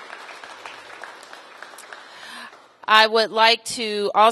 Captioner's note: applause